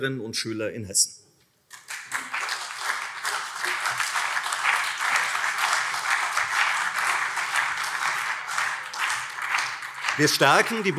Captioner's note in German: Beifall CDU und SPD